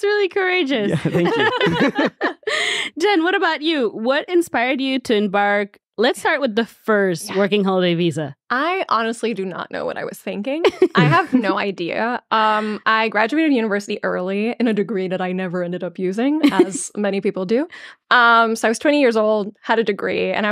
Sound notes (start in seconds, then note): 0.8 all laughing; 10.7 chuckling